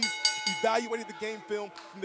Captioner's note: bell ringing